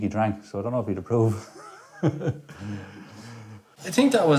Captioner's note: laughs